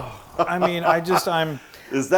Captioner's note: laugh